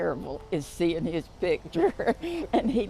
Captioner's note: chuckles